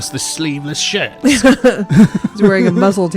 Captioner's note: laughs